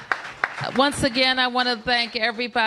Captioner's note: applause